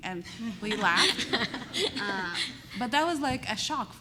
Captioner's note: laughter